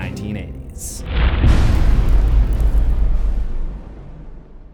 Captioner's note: impact